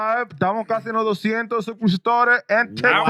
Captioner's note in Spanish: Hablando en idioma extranjero